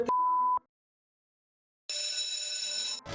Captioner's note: beep Sound; school Bell Ringing